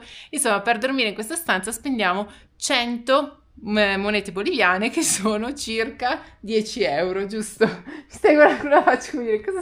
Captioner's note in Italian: risate